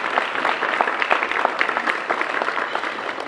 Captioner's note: applause